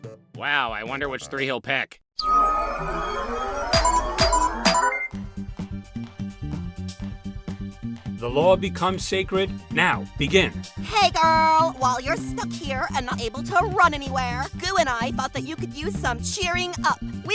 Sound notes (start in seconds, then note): 2.2 processing sound; 3.7 selection sounds